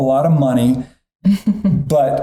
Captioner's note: chuckling